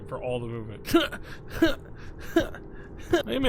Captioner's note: Skull grunts